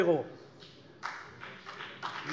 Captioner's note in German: Beifall CDU und BÜNDNIS 90/DIE GRÜNEN